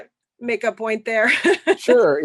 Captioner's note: laughter